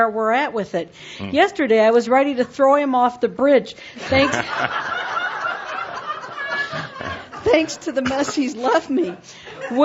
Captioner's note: laughter